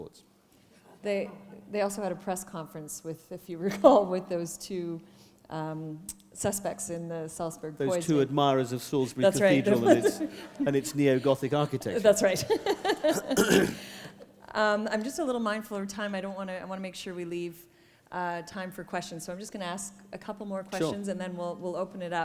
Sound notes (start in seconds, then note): 11.9 laughter